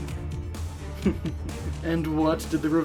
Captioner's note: laughs